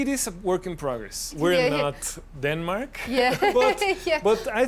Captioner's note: laughs